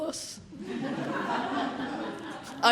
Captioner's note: laughter